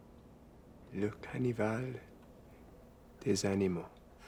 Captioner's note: French spoken audio